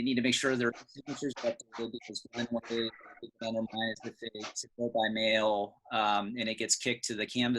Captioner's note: crackling drowns out